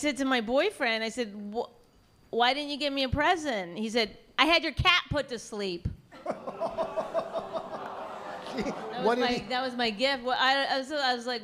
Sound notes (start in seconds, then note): 6.1 laughs